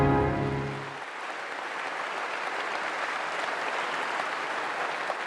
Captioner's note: applause